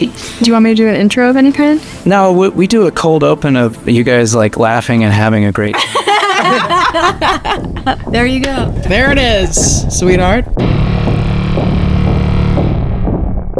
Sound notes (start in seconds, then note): 5.7 Hannah and Gillian laugh; 10.6 dramatic music